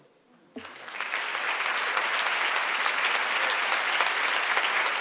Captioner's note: audience applauds